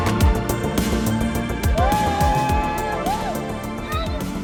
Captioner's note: cheering